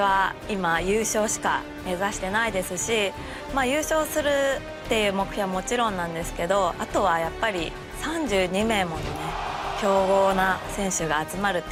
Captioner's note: speaking japanese